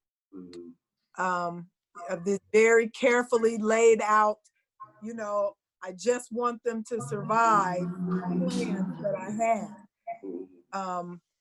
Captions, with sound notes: Very carefully laid out, I just want them to survive (humming drowns out speaker) that I had.